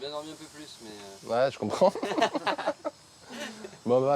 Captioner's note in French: rires